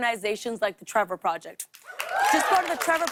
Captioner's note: cheers and applause